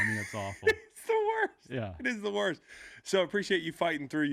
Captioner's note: laughing